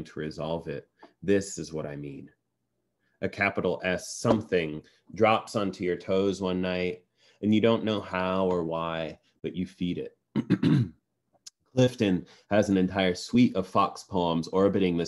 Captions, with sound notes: to resolve it, this is what I mean. A capital S, something, drops onto your toes one night, and you don't know how or why but you feed it. [CLEARS THROAT] Clifton has an entire suite of fox poems orbiting